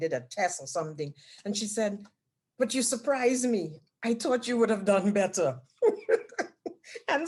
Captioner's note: laughs